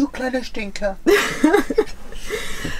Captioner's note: laughter